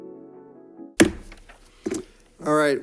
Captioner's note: gavel bangs